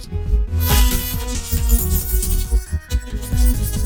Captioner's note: keys jingling; curious music plays